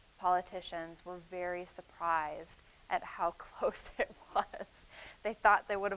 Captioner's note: chuckling